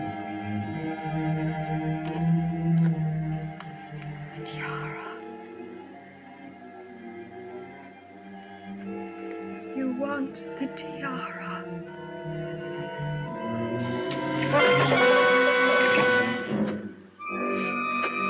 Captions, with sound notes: The tiara. You want the tiara! [ TIARA DROPS AND MUSIC PLAYS SUDDENLY ]